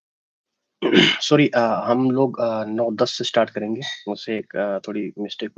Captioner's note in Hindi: गला साफ़ करने की आवाज़